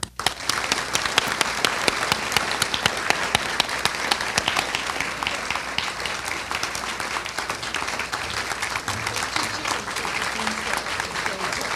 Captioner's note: applause